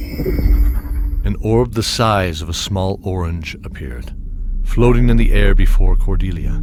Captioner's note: spell casting